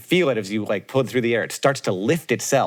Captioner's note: none